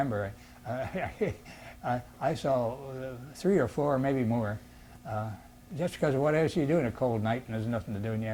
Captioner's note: laughs